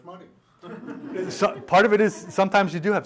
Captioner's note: laughter